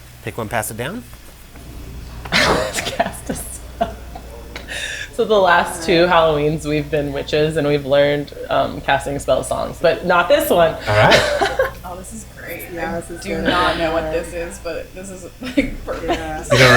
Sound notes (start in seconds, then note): 2.2 laughs